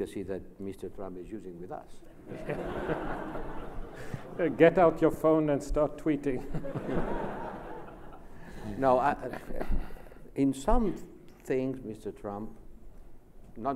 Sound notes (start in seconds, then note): 2.2 laughs